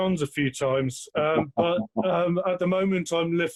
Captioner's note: laughs